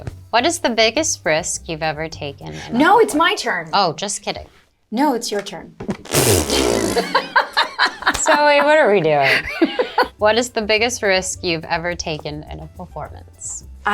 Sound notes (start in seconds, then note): 6.5 both laugh